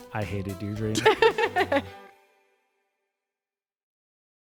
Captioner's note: everyone laughs